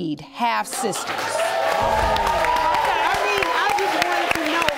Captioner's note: audience applauding